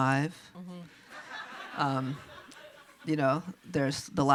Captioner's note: audience laughs